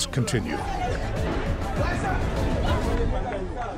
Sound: yelling

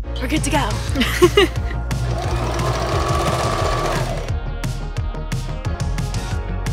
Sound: upbeat music; sewing machine humming

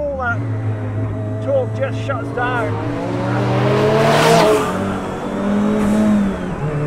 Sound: car engine roars

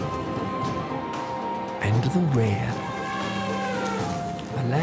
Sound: elephant trumpets

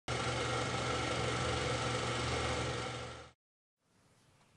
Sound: film whirrs

